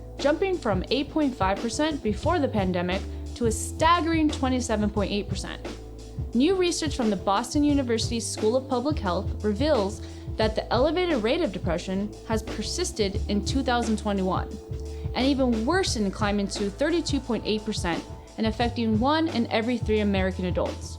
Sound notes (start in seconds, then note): none